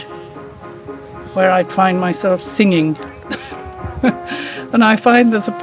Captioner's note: laughs